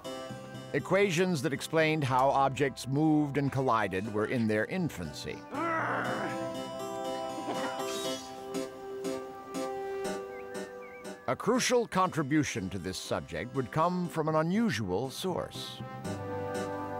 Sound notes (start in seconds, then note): 5.5 growls; 7.4 kisses and giggles